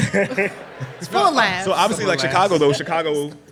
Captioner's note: laughter